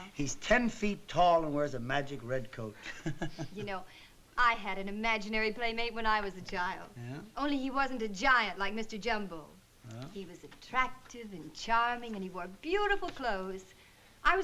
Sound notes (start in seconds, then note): 2.7 chuckles